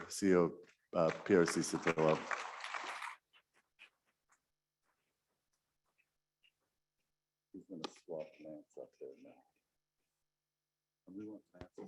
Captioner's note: muted